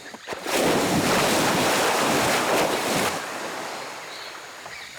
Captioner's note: water splashing